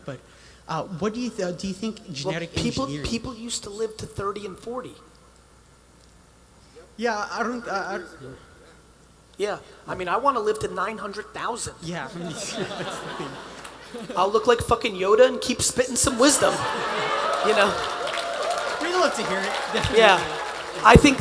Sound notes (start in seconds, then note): 16.0 attendees applauding and cheering